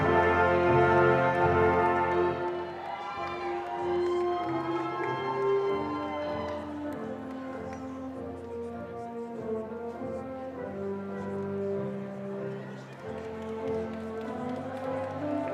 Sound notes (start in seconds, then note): 4.5 audience cheering